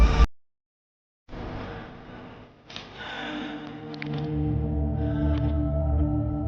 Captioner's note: ominous music; labored breathing